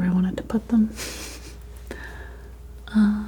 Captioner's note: chuckles